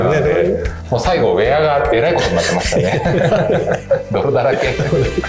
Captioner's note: laughs